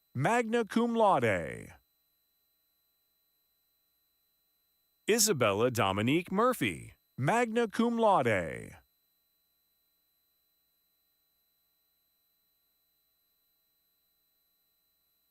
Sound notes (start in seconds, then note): none